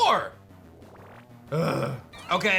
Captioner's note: grunts